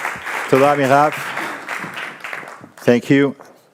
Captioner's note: speaks in foreign language